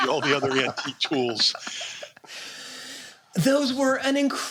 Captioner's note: laughter